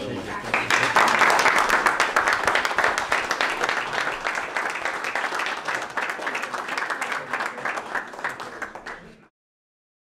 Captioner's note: applause